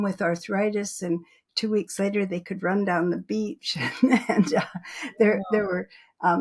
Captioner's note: laughs